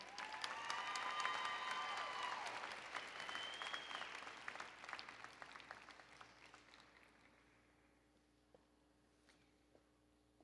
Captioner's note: applause and Cheering